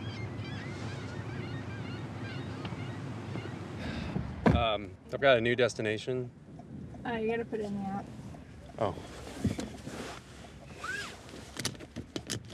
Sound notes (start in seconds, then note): 0.0 seagulls squawking; 3.8 sighs